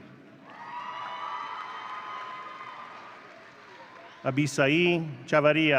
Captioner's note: audience cheering